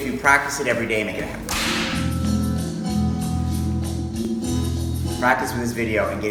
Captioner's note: whip cracks